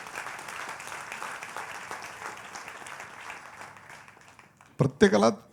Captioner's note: applause